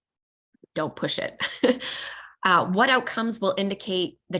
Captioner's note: laughter